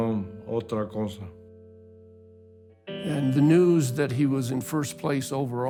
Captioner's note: in English